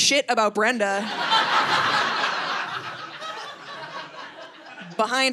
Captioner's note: audience laughing